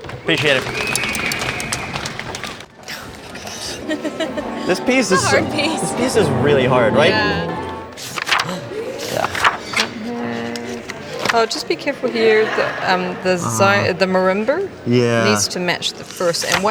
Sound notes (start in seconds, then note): 0.5 group applauding; 4.2 woman chuckles softly; 8.2 pages flipping